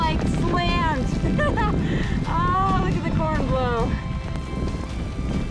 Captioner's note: laughs